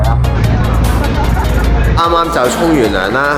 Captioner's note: water sound